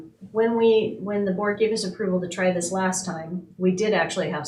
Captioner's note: none